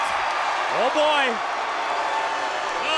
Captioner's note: crowd cheering